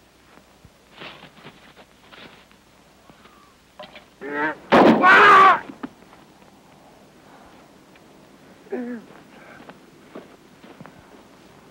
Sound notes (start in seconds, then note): 4.7 gun firing; 4.9 Brown yelling